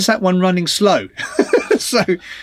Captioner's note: laughs